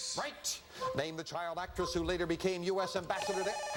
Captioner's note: buzzer